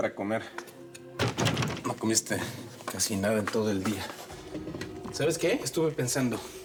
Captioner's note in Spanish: sonido al cerrar la puerta